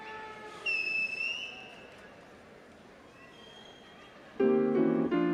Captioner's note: audience member whistles